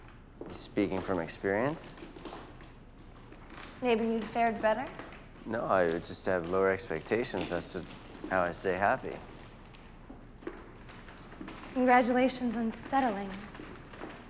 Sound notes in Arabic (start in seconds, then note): none